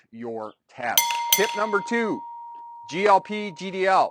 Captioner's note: bell rings